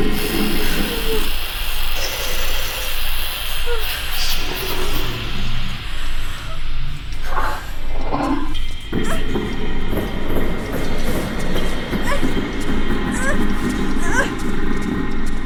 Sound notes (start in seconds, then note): 0.1 creature roaring and chittering; 3.8 woman groaning; 9.1 woman grunting